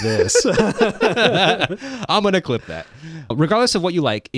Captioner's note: both laughing